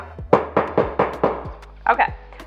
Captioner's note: banging